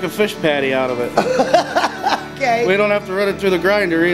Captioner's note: woman laughing